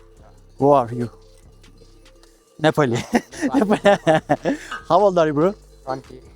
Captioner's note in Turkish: kahkaha